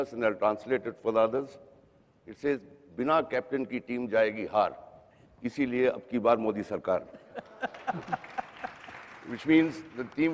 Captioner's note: non-english speech